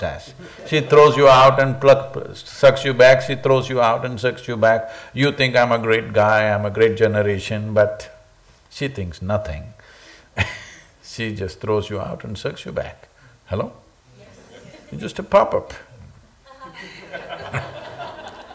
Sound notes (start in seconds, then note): 10.0 laughs; 16.4 laughter